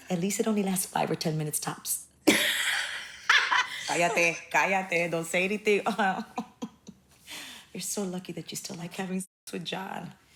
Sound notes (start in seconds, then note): 3.2 laughing; 6.5 chuckles